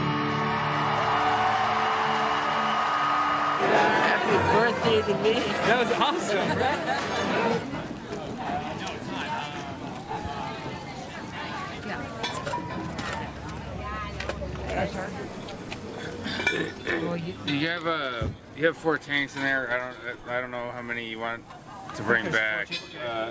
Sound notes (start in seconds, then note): 0.0 audience cheering; 2.3 audience applauding; 7.1 people chatting; 12.2 oxygen tank clanging